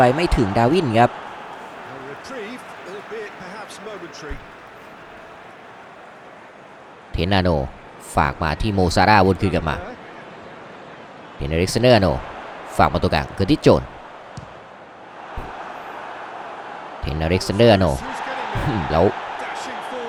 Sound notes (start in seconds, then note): 5.3 applause